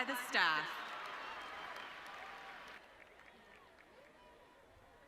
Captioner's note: audience cheering